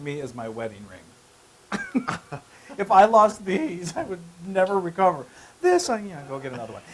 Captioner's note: laugh